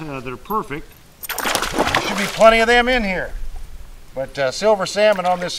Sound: splash

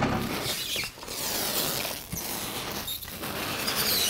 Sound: squeaking

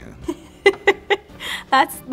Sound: woman laughing

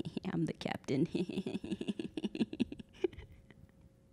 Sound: laughing

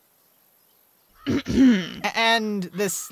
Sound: luna clears throat

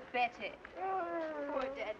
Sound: playfully moaning

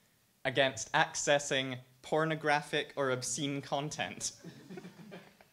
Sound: laughs; audience laughs

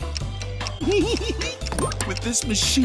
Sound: giggling

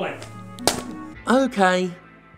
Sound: paper rips

